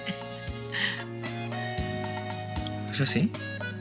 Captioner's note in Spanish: risas